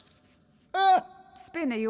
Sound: surprised yelp

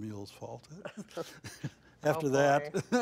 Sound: laughs

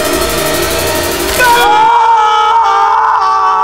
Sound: Roy screams

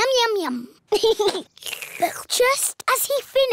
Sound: giggles; slurps

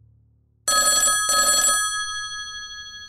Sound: phone Ringing

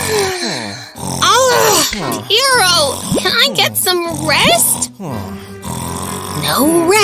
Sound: snoring loudly

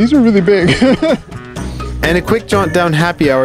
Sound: laughs

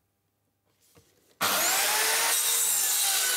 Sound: saw noise

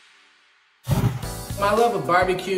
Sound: flame ignites

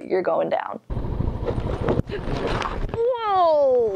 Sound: engine roaring

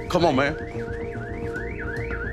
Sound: alarm blaring

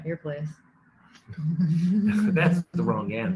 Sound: laughing

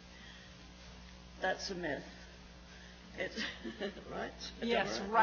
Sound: laughs

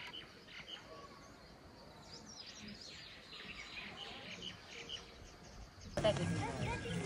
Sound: landscape and Bird Sounds

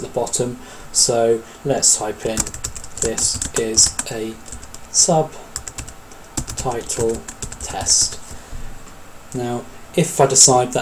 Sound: keyboard strokes

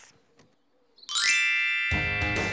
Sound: ignition rings; mellow rock music

